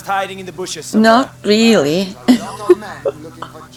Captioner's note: chuckles